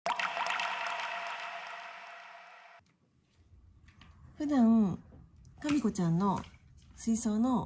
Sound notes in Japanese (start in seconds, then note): 0.0 効果音